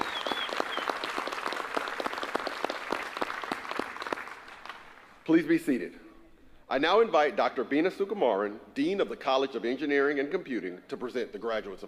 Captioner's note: applause